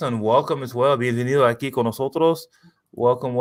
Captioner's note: speaking spanish